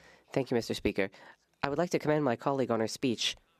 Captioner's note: speaking French